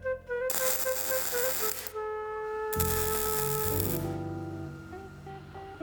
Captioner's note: gentle music; electric torch sizzles; gentle music